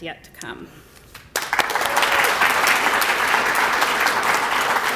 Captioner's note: applause